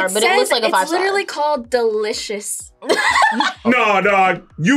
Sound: laughs

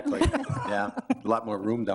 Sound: all laughing

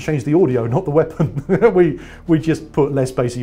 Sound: laughing

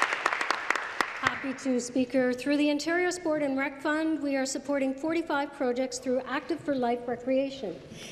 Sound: applause

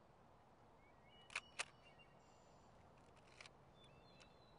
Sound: shutter clicks

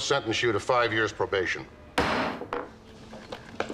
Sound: gavel bangs

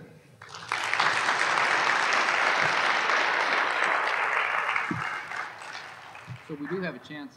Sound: applause

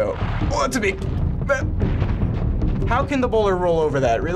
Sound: grunts

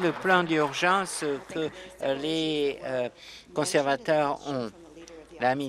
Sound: applause

